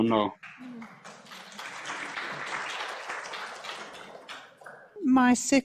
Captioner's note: applause